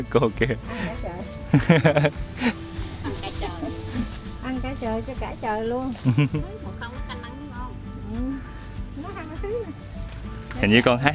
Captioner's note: chatting